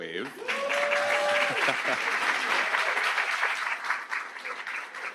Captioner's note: audience applauds